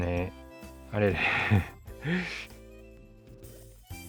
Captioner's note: laughs